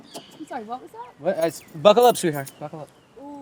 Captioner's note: Donald stammers